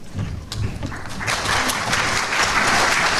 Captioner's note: clapping